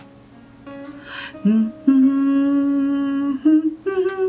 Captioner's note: humming